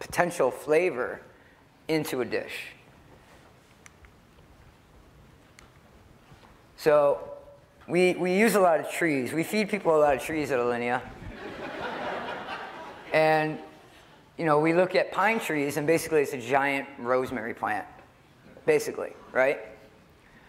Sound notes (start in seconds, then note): 11.2 laughter